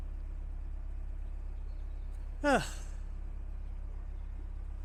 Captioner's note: sigh